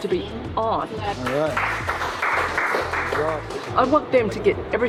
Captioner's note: applause